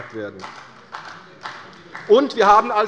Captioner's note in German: Beifall bei Abgeordneten der CDU